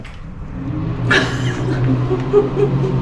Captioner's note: chuckling